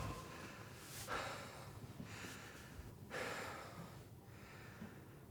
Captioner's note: heavy breathing